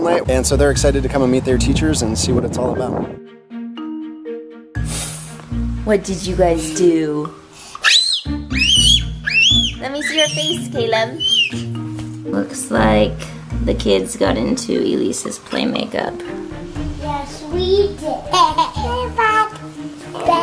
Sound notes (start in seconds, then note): 8.4 screams; 18.2 laughs